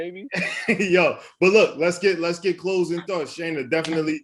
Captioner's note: laughs